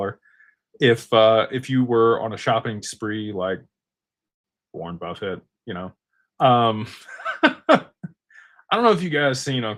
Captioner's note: laughter